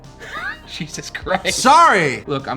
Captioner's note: laughs